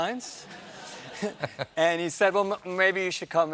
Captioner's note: laughter